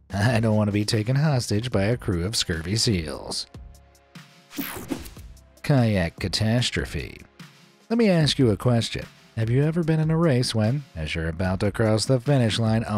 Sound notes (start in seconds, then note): 4.5 screen wipe whooshes